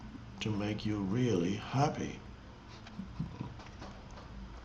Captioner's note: chuckles